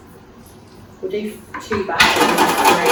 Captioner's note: shakes fryer